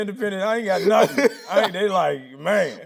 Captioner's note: Tyler laughing